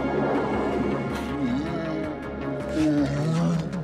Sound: growling

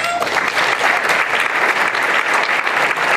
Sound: applause

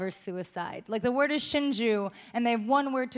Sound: speaking Japanese

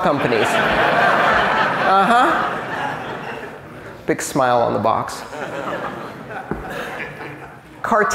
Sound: laughter

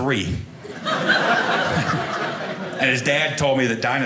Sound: audience laughing

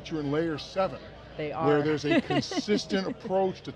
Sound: laughs

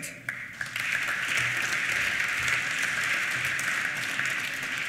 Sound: applause

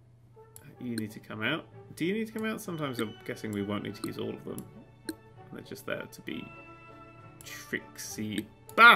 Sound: solving sounds once more

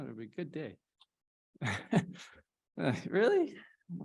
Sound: laughter

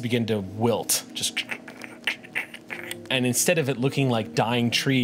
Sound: cracks

